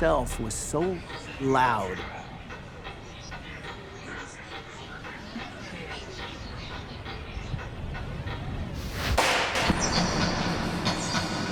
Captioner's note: clock ticking